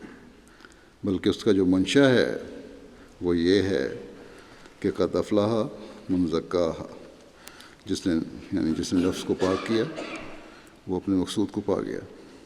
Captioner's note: Arabic